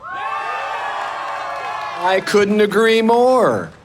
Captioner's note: audience cheering